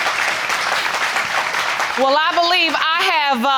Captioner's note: audience clapping